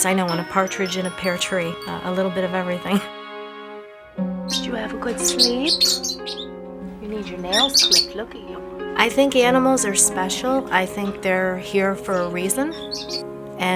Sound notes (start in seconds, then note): 4.5 prairie dog squeaking; 4.5 laughs